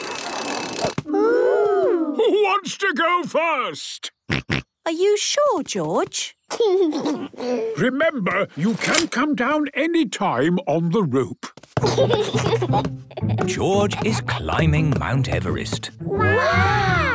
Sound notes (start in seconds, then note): 4.9 George snorts; 6.8 giggles; 11.8 giggles